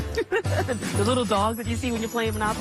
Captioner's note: laughs